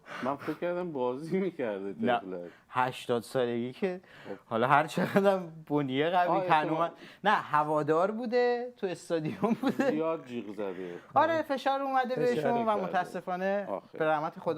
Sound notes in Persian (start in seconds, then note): 9.2 خنده